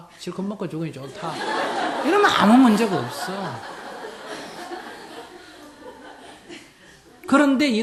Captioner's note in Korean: 청중 웃음